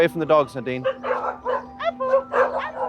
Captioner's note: dogs barking